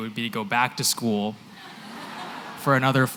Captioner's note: laughter